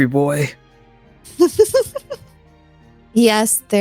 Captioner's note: laughs